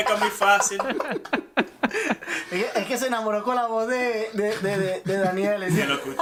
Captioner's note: laughs